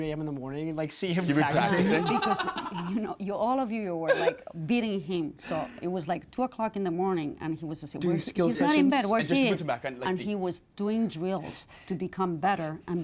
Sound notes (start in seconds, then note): 1.7 laughing